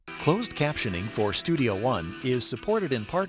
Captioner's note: voiceover